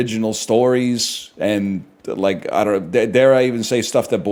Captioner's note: stammers